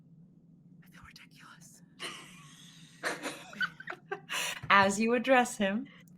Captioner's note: laughing